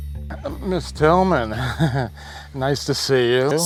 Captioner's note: laughs nervously